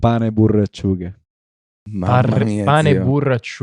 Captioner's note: disgusted